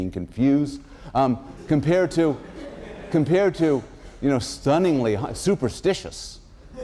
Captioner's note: laughter